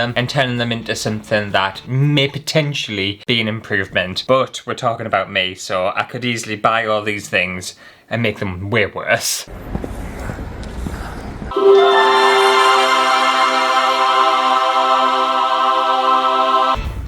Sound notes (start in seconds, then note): 9.6 foot Steps; 11.5 heavenly Music